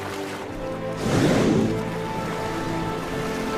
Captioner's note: spraying water